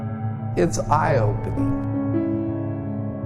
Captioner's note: voice over, male